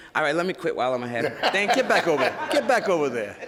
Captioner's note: laughing